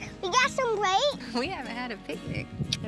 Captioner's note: smooch